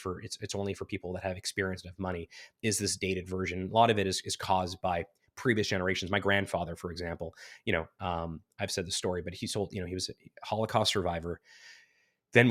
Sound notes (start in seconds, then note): none